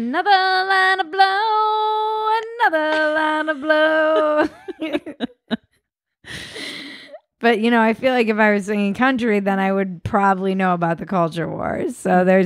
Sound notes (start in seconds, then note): 2.8 both laughing